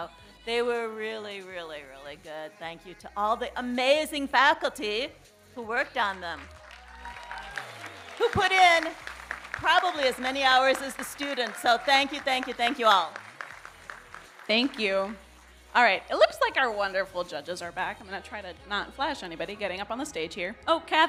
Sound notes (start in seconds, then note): 7.3 audience cheering and applauding